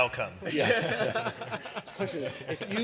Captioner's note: laughter